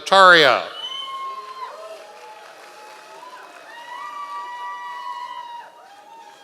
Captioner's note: members of the audience cheering